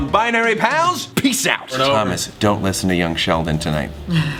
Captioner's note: chuckles